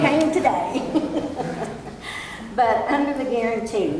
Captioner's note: laughs